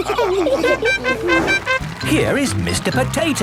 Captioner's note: all laughing; horn tooting